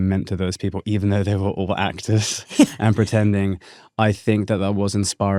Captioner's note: chuckles